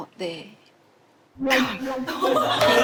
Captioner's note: haha